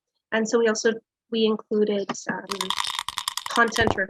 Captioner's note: die rattling